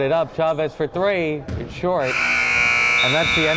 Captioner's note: buzzer buzzing